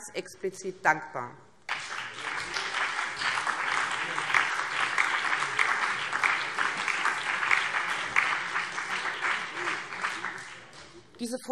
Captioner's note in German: Beifall BÜNDNIS 90/DIE GRÜNEN, CDU und vereinzelt DIE LINKE